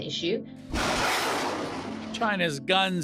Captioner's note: soundbite of archived recording